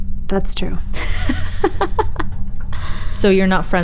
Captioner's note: Hillary laughing